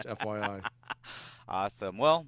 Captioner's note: laughs